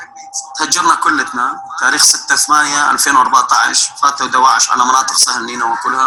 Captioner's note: mean speaking foreign language